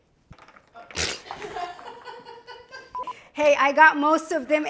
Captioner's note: crew member laughs; vibrates lips